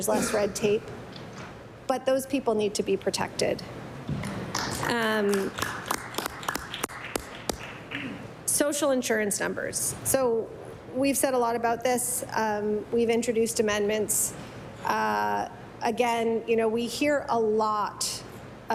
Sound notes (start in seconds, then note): 7.3 some Applause